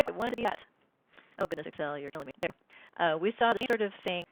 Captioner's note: glitching speaking